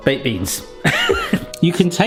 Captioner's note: laughing